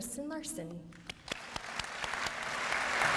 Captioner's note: applause